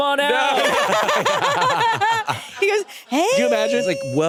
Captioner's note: laugh